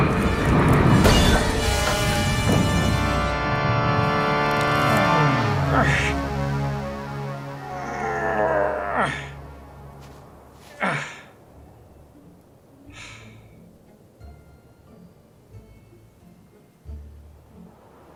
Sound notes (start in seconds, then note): 0.5 tardis crashes; 5.4 doctor groans and grunts